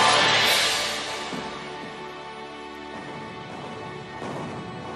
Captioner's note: heavy artillery booming